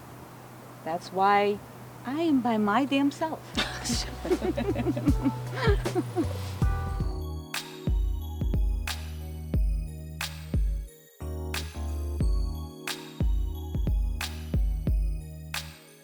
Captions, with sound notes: That's why I am by my damn self. (laughs)